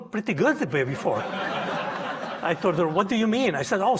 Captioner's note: audience laughing